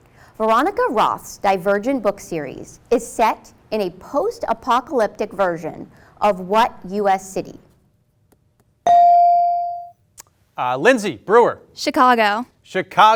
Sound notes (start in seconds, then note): 8.8 bell ring